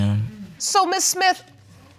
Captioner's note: none